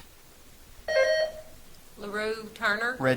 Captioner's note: buzzer trills